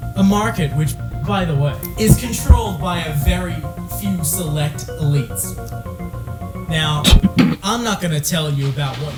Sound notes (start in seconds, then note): 7.0 cough/snort